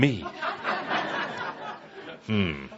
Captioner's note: laughter